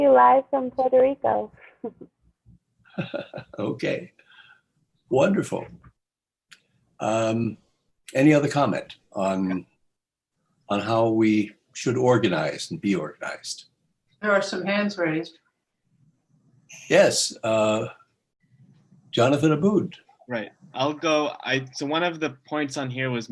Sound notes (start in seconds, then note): 2.9 laughter